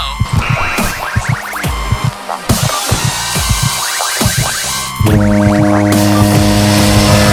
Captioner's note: upbeat music; loud horns blaring